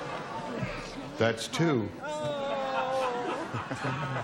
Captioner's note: groaning